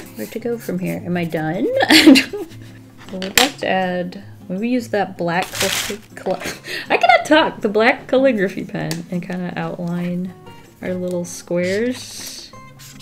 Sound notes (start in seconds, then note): 0.0 giggles; 1.7 laughs